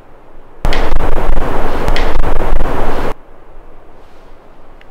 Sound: knocking sound

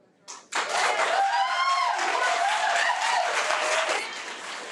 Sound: audience applause

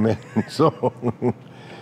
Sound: laughter; chuckles

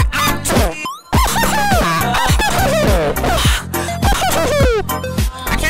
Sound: weird laughing/screaming/screeching noises

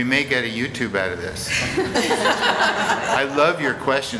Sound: laughter

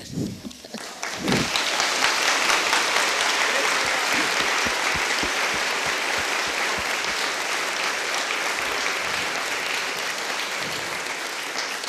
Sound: applause

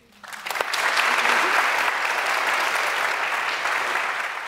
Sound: applause

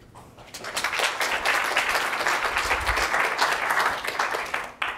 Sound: applause

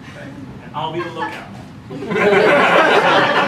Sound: laughter

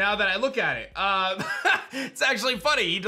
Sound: chuckles

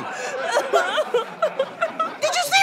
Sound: sobbing continues

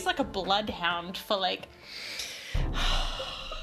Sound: sigh

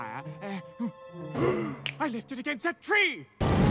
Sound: gasps

